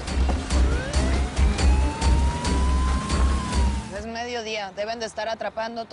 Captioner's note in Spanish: Sirenas